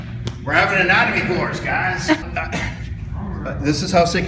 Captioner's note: some laughs from students